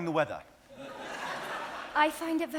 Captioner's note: audience laughing